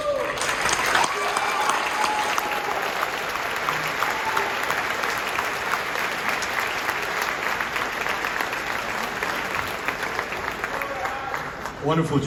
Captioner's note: audience cheers